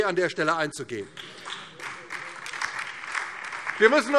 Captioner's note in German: Beifall DIE LINKE und vereinzelt SPD